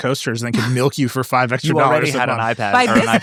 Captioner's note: laughs